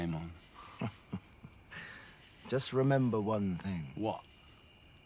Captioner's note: chuckles